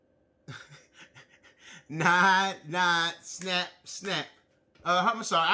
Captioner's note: laughs